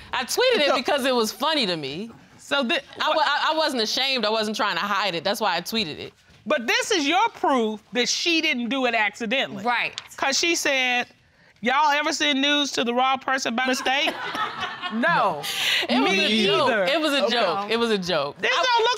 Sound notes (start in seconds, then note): 11.8 judge dana reading